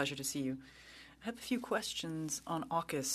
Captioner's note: speaking French